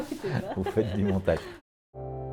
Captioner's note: laughing